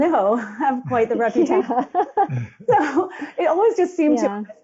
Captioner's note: group Laughing